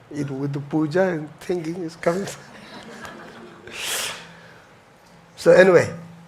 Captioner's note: audience chuckles